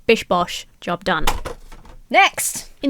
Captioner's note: card smacks on table